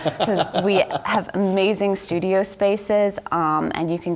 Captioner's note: laugh